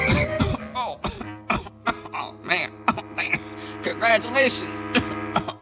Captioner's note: coughing; tires squealing